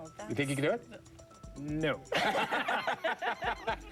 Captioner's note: laughter